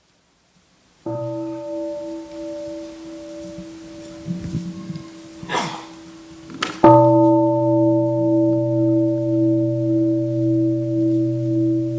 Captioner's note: gong sounds